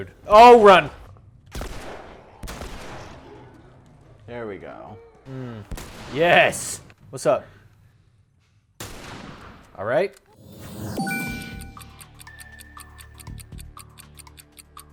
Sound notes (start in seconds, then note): 1.5 gun firing; 5.8 gun firing; 8.8 gun firing; 11.1 clock ticking